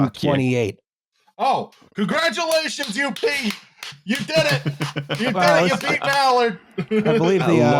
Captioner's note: applauding